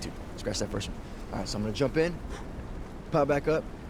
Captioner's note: exhales loudly